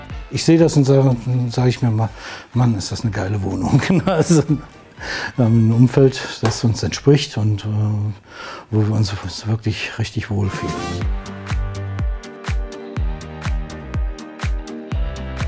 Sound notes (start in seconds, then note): 3.6 laughter; 10.3 dynamic music